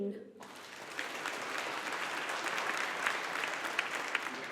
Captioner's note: audience applauding